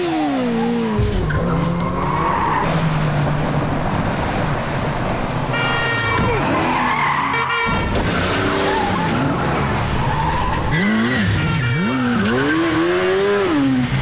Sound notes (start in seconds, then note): 1.7 tires screeching; 5.4 honking; 7.6 tires screeching; 11.0 honking